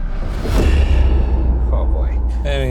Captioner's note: air rumbles